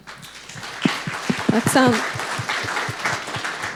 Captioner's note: audience clapping